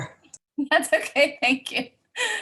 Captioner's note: laughs